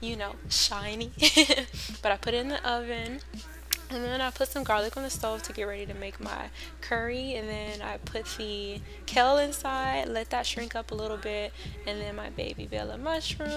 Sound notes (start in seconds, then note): 1.2 laughs